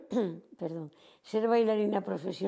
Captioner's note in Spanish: carraspea